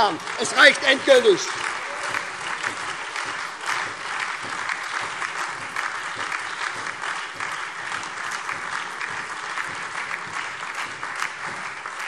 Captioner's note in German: Lebhafter Beifall SPD, AfD, Freie Demokraten und DIE LINKE